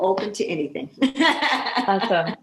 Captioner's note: laughing